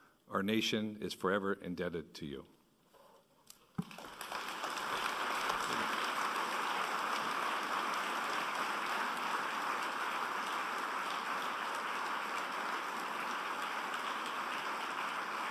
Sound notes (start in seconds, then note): 4.0 applause